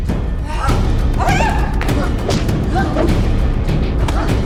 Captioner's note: both grunting